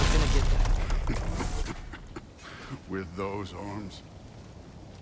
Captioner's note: laughs